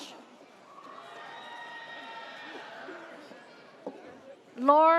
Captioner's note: audience cheers